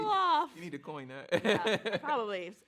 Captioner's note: laughs